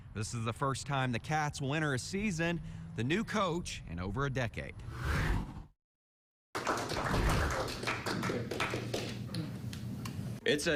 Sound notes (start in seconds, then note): 4.8 air whooshes; 6.5 group applauds